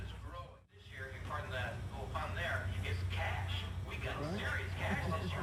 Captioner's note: radio chatter continues